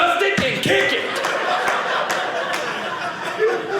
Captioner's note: audience laughing